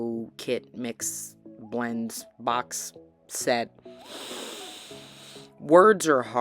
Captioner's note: deep breath